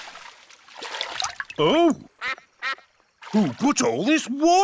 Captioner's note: quacks